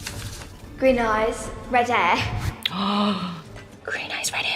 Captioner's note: Bailey gasps